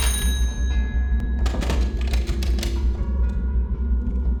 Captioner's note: bell ringing